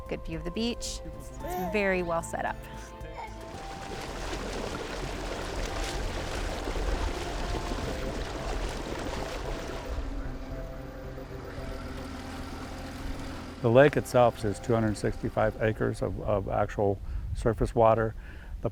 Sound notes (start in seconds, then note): 3.1 baby babbles; 5.1 water splashes; 12.0 engine hums